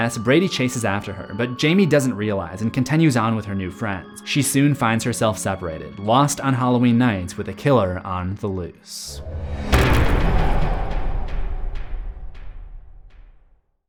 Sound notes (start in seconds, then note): 9.1 cinematic impact